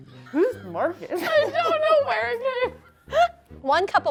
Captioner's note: laughing